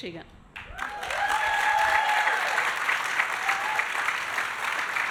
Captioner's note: audience applauding